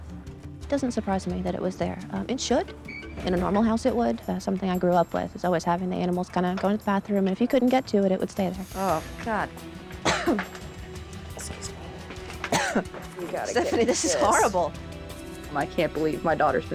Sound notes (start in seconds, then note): 12.4 coughs